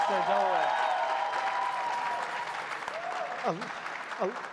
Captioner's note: crowd applauding